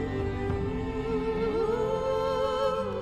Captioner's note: none